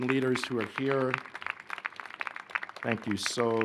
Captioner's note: applause